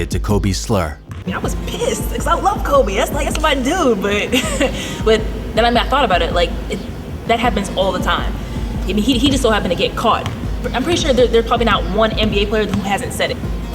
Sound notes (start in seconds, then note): 4.9 laughs